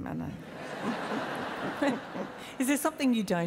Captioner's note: laughs